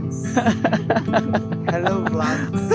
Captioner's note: laughs